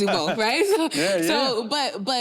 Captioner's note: clapping